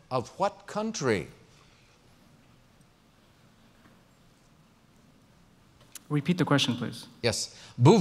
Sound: pause

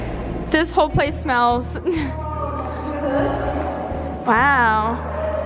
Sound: laughs

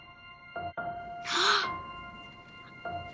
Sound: soft piano; gasps

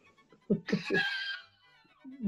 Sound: giggling

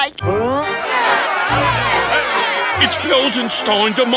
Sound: murmuring

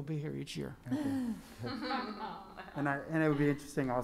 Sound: laughing

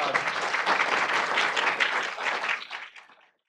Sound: audience clapping

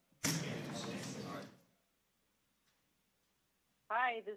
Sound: background chatter

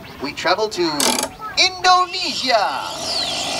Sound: crank noises; machine sounds

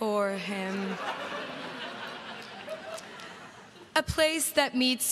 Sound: crowd laughs

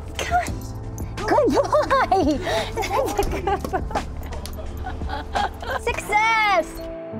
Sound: laughs

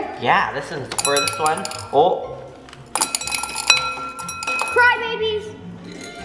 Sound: candies jingling

